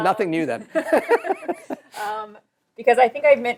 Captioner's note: laughter